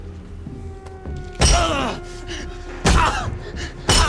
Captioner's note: grunts